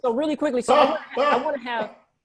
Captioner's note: laughs